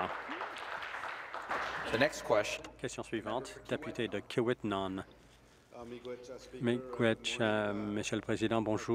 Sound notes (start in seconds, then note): 2.8 applause